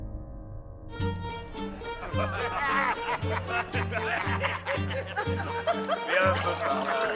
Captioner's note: upbeat music; people laughing